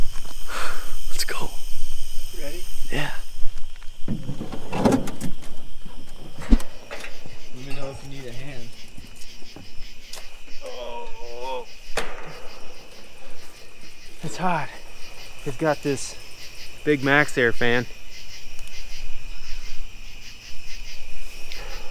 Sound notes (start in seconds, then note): 10.5 groaning